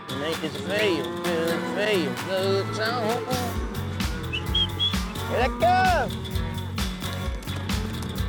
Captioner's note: mooing; whistling, calling cows